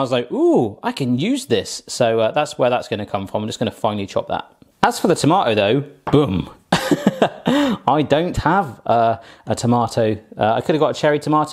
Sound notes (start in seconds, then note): 6.8 laughs